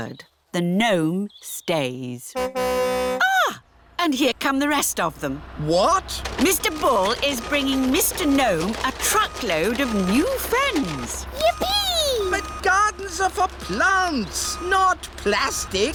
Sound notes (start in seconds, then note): 2.4 car horn tootles